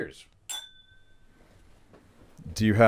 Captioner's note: glass clinking